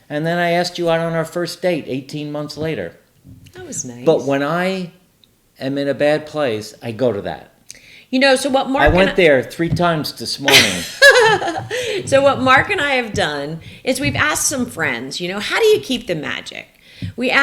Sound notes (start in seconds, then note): 10.5 laughing